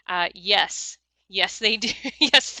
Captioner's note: laughs